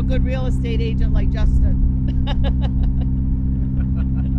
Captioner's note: laughs; laughing